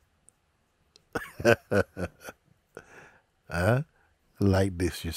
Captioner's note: Mooji lacht